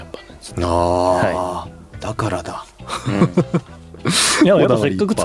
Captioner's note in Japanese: 笑い